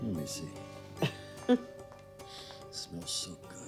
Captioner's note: giggling